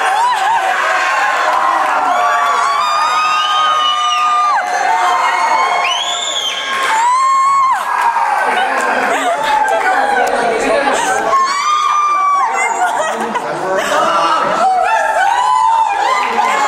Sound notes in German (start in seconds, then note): 1.9 Leute schreien